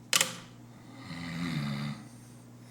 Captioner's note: JUNQUEIRA snoring